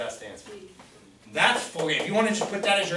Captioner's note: voiceover